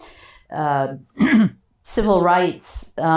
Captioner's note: clears throat